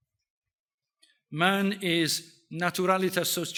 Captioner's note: speaks in foreign language